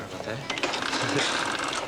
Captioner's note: register cranking